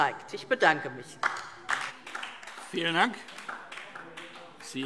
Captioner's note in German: Beifall DIE LINKE